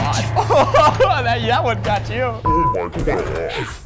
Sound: laughing

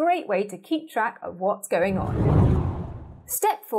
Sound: scene whooshes

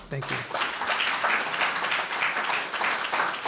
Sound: applause

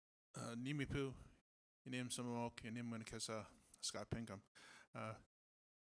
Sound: native American language

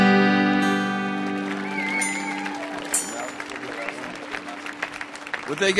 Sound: audience applauding

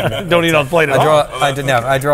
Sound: laughs

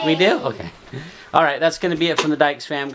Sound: cheering

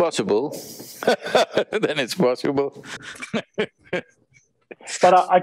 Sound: laughs

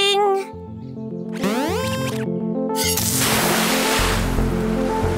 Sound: beeps

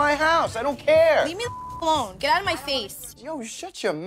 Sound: beep

